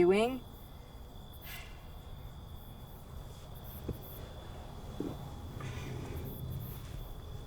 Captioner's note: crickets chirp; faint traffic noise